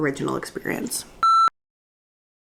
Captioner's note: beeping